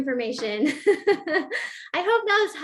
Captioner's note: laughter